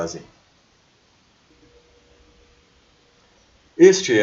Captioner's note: excellent Silence